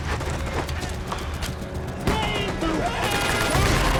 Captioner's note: shouting